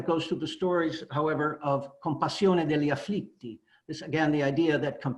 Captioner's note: italian